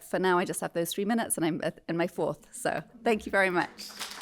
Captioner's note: applause